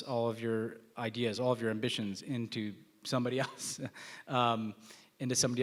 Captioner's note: laughs